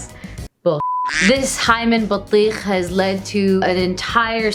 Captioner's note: speaking Arabic; beep; speaking Arabic